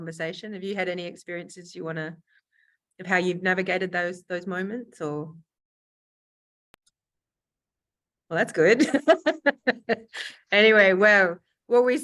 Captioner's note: laughs